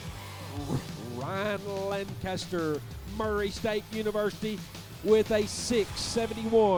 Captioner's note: voiceover